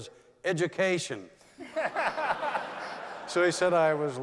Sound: laughter

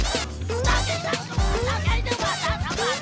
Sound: stammering

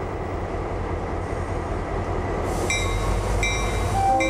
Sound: train noises

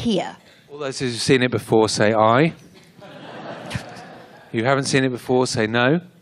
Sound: laughter

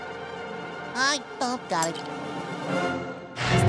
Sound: none

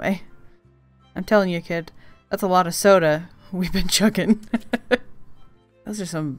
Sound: laughs

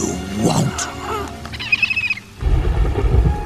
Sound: chirping

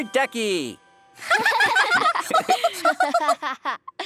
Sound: laughing

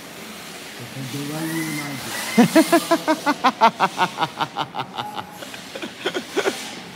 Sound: laughter

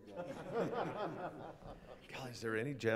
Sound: laughter

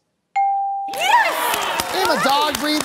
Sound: cheering

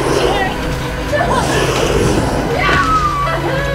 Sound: growling

